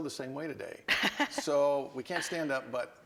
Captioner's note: laughs